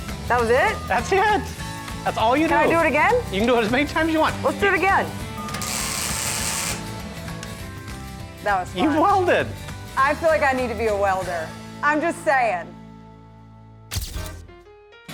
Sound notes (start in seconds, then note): 5.6 sparking